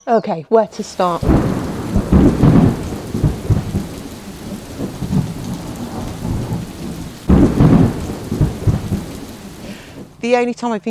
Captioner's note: soundtrack of rain and thunder claps